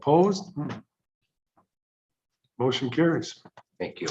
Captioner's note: silence